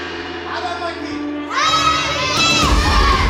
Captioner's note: gong; martial arts noises